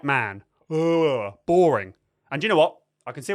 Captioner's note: yawns